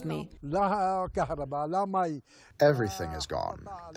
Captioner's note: through translator